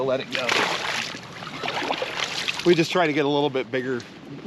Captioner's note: fish splashing